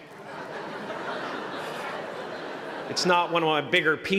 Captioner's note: laughter